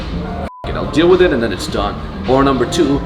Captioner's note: beep